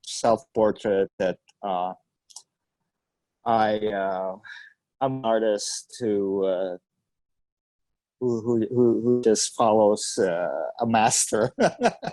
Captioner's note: laughs